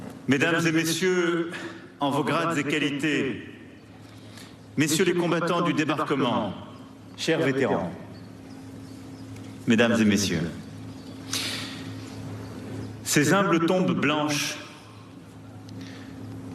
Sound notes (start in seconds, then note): 2.1 speaking global language